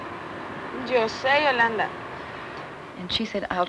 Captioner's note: speaking Spanish